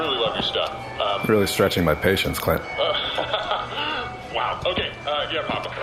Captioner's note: laughs nervously